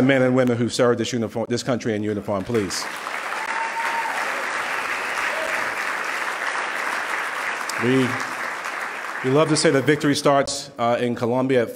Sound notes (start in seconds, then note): 2.5 loud clapping